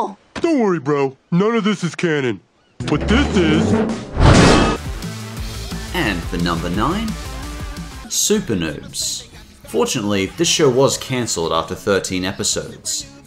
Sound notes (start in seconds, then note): 2.8 metal slamming